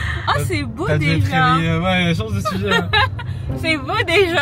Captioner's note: laughs